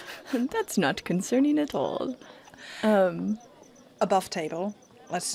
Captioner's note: giggles